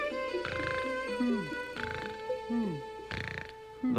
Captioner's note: snoring